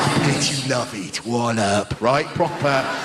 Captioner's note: cockney noises